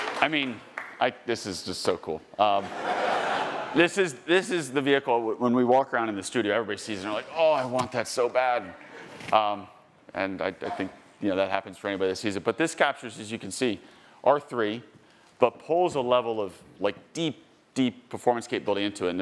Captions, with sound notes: I mean, this is just so cool. (attendees laughing) This is the vehicle, when we walk around in the studio, everybody sees it and they're like, "Oh, I want that so bad." And I think, you know, that happens for anybody that sees it. But this captures, as you can see, R3, but pulls a level of like deep, deep performance capability into it.